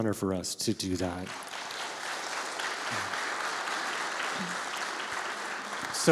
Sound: congregation applauds

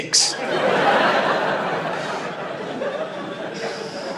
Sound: laughter

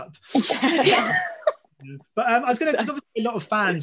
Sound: all laugh

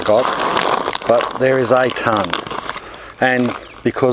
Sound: package rustles

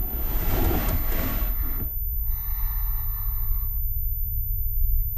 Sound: breathing heavily

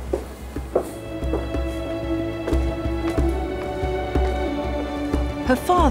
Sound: footsteps shuffle; soft dramatic music

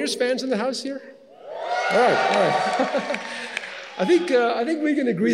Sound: graduates cheers; laughs

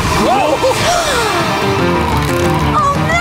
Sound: gasping

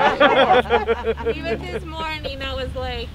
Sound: laughs

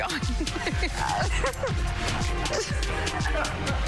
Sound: laughter

